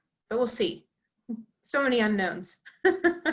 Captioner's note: laughing